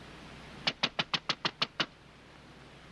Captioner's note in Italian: bussano alla porta